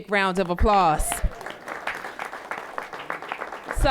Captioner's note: applause